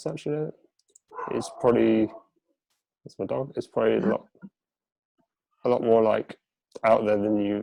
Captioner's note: barking in background